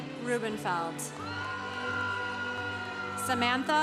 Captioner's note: congregation cheering